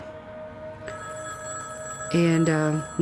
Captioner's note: phone ringing